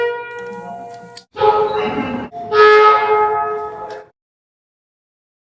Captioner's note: air Horn